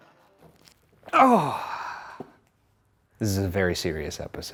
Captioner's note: grunts